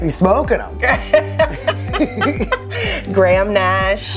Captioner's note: laughter